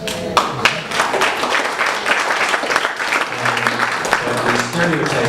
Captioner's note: applause breaks out